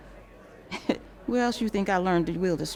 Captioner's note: chuckles